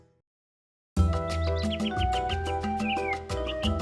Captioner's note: birds chirping